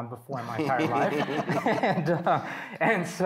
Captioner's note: all laughing